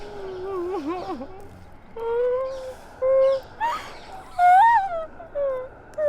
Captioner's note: documentarian whimpering and crying